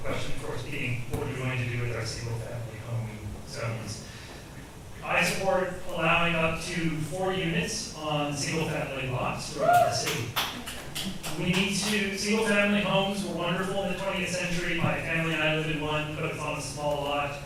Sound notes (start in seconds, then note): 9.5 audience members cheer